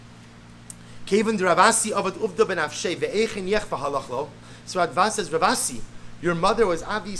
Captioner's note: Hebrew